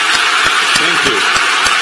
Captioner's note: applause